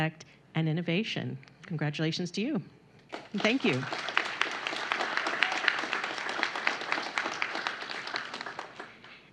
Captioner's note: applause